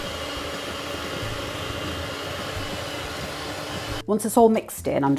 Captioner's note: cake mixer whirring